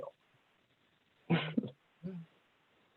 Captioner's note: laughing